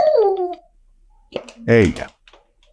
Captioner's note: dog whimpering